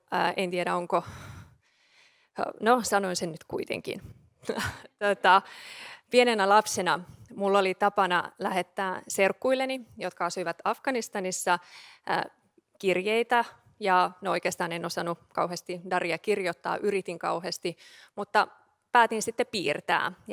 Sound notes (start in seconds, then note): 4.4 laughing